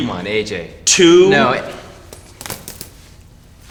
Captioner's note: buttons popping